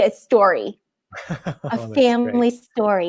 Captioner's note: laughs